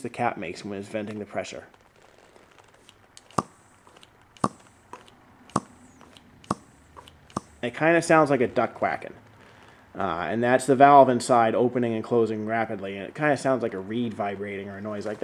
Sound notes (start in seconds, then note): 2.7 pumping and hissing noises